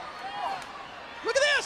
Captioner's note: hand slapping